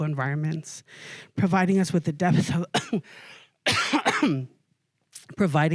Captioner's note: coughing